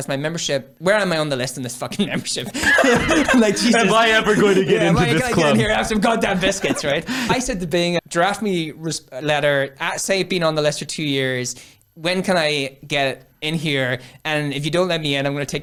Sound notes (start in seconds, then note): 2.0 laughs